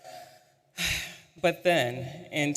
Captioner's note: sighs